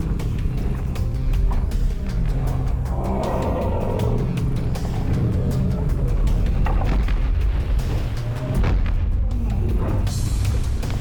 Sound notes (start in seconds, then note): 2.8 roars